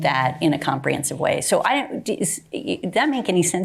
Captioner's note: stammering